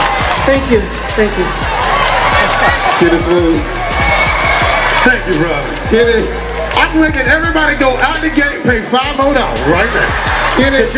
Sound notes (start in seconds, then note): 5.0 speaker On Microphone